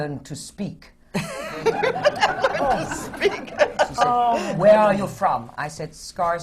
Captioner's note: laughter